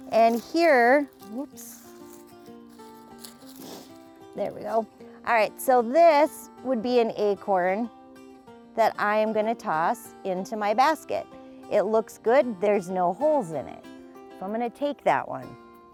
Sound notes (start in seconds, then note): 1.6 leaves rustling; 3.2 sniffs